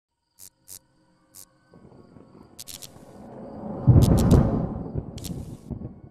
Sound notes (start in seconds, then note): 0.1 crickets churping; 1.4 neon sign buzzing; 2.4 whooshing